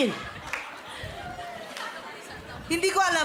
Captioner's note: audience laughing